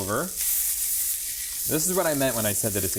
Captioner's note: skillet sizzling